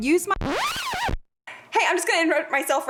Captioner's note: record scratch